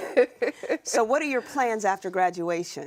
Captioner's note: laughs